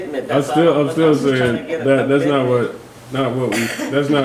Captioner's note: murmurs